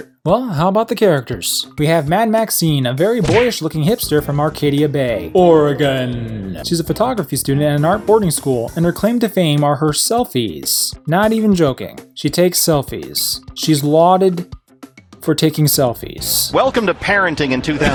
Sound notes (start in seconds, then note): 3.2 smack!; 5.4 echoing